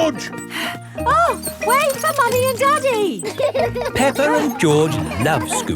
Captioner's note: panting